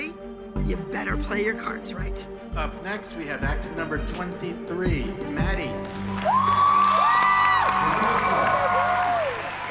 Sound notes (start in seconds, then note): 5.8 applause, cheering and whooping